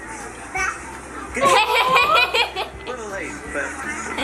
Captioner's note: laughs